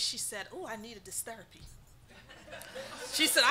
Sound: audience laughing

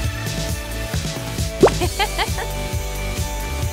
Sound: giggling

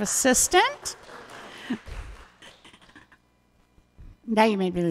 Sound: audience applauding

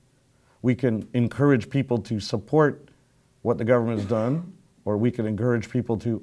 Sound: cough

